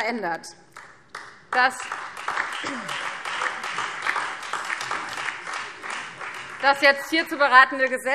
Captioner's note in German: Beifall Freie Demokraten und DIE LINKE